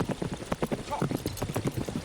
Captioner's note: horse whinnies